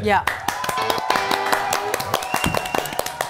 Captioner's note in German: Jubel, Applaus